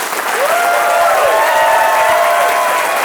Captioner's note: applause